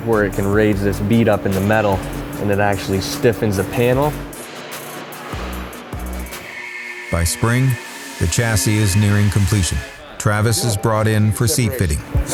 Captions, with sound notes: where it can raise this bead up in the metal and it actually stiffens the panel (metals clinking) (funky music) - By spring, the chassis is nearing completion. Travis is brought in for seat fitting.